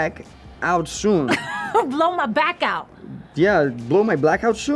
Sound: laughs

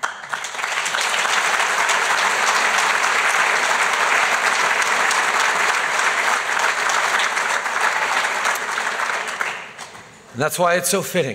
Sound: applause

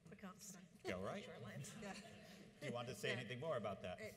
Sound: audience laughs

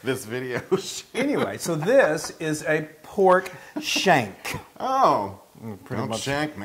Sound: laugh

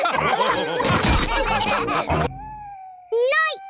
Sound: laughter

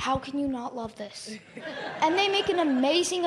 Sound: laughter

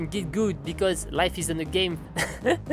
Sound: laughs

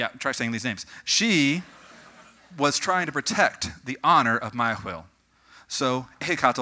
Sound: audience: Chortling; audience: More chortling

